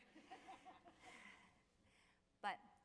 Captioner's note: audience laughing